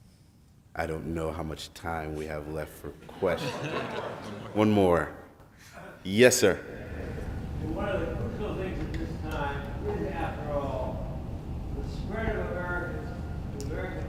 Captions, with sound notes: I don't know how much time we have left for questions. (laughs) - One more. - One more yes, sir. - One of the crucial things at this time is after all the spirit of the American population